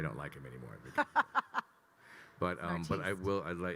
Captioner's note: laughing